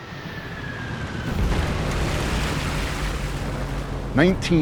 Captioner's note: bomb whistling; explosion roars